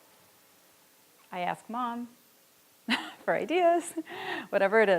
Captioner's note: laughs